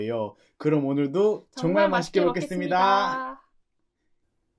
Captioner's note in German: Aufgeregt